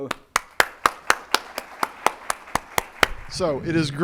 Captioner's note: audience clapping